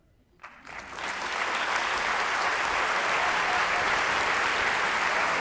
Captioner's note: audience applauds and cheers